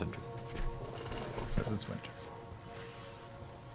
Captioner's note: quietly